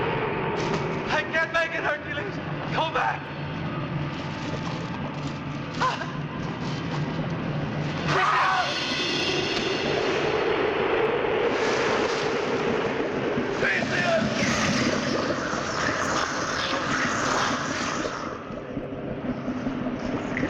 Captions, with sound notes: I can't make it, Hercules, go back. (gasping) (screaming) - Theseus!